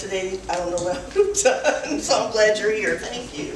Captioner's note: laughs